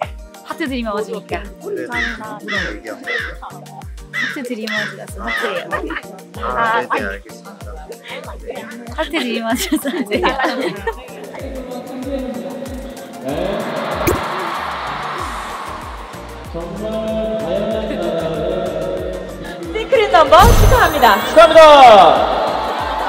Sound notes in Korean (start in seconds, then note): 13.3 밖에서 들리는 엄청난 함성 소리